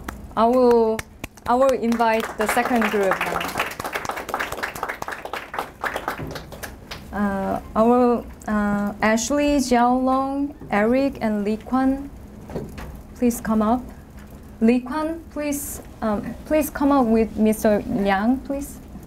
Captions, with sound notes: I will invite the second group now. (applause) Ashley, Jiaolong, Eric and Lee Kwan Please come up. Lee Kwan please come up with Mr. Liang please.